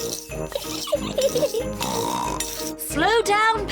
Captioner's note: giggles and snorts